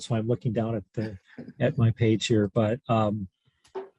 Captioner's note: laughter